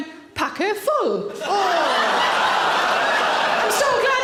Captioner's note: audience laughing